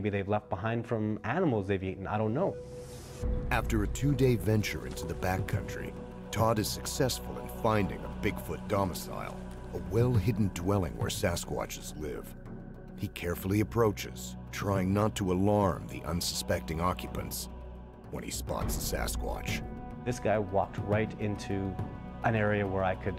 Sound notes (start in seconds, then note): 13.7 voiceover